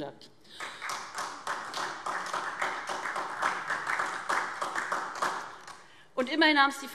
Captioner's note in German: Beifall SPD